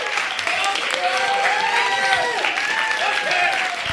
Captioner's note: crowd cheering